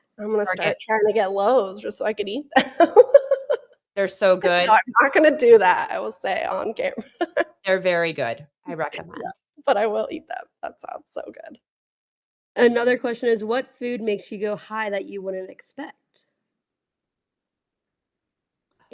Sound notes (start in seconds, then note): 2.6 laughs